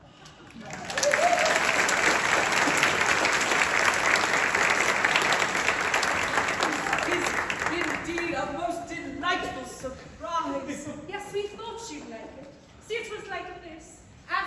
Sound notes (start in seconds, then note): 0.4 applause